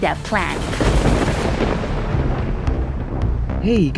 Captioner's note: thunder